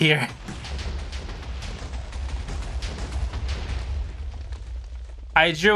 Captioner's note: many TNT exploding sounds